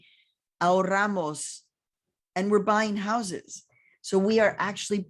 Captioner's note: speaking in foreign language